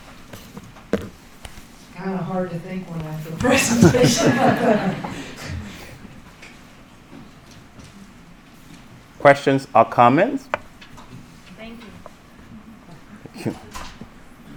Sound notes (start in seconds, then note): 3.4 chuckles; 3.4 audience laughing